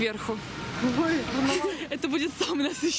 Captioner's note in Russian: смеются